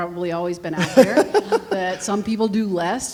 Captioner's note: laughs